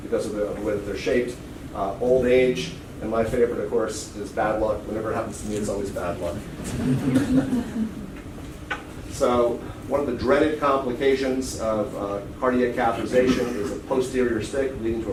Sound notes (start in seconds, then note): 6.6 laughter